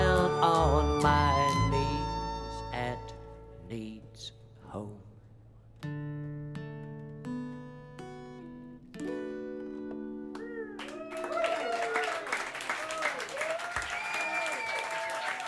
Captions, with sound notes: * Down on my knees At Nied's Ho-- * [CHEERS AND APPLAUSE]